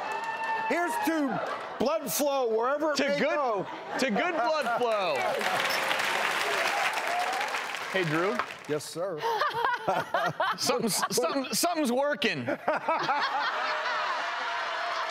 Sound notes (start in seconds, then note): 4.8 applause; 9.2 woman laughs; 12.7 laughs